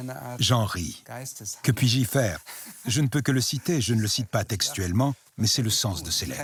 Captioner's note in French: rires